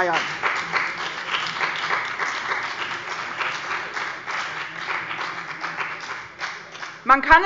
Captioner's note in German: Beifall bei der CDU und dem BÜNDNIS 90/DIE GRÜNEN